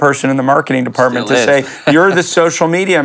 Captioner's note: laughs